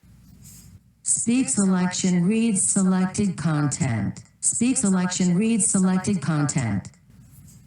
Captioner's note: Sound from the iPhone